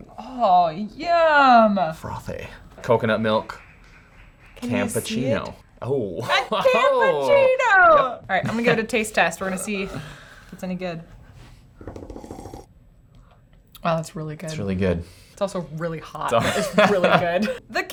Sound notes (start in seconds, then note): 11.8 drum rolls; 12.1 slurping; 16.4 laughing